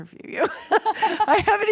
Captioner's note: laughing